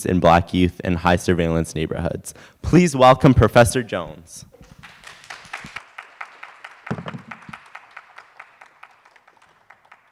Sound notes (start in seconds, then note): 4.6 audience applause